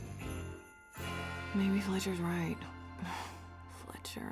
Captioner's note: sighs